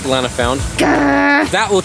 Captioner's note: angry noise